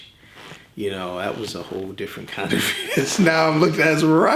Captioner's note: laughs